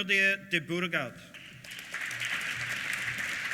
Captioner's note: applause